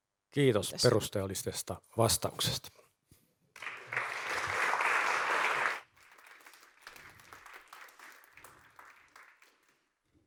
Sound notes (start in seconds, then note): 3.5 applause